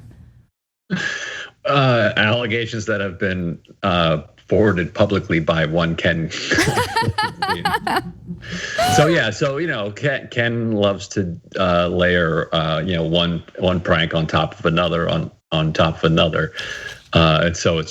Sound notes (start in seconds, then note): 6.6 laugh